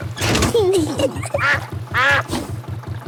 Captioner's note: kids giggling; level clangs; quacks